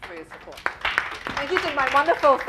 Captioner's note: applause